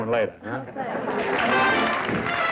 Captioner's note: applause